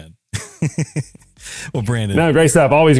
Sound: laugh

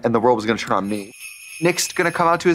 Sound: sleigh bells jingling

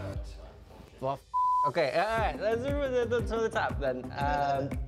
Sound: beep

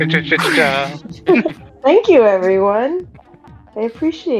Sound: chuckles

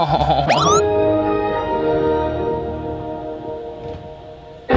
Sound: computer loading sounds

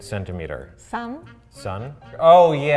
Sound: speaks in foreign language

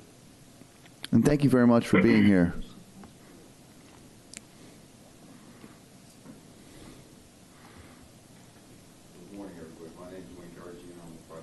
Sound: away from microphone

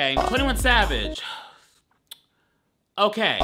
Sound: sighing

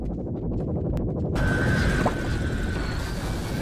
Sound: Mortar Synth Hovers; mortar Synth Lasers Charge Up; mortar Synth Laser Fires

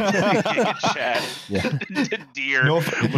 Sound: laughter; laughing

